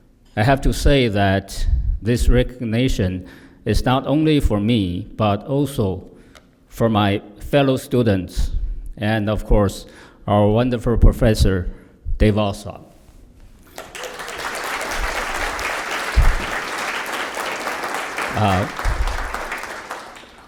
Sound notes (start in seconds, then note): 13.6 applause